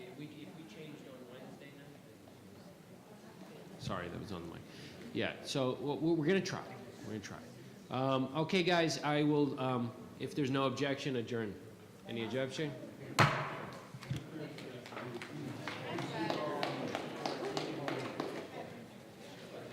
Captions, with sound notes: We changed on Wednesday night. Sorry that was on the mic. Yeah, so, well, we're gonna try. We're gonna try. Okay guys I will, if there's no objection adjourn. Any objection? (gavel bangs against table) (chatter amongst members and audience)